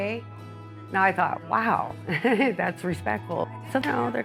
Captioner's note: chuckling